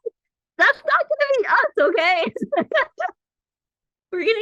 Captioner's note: laughs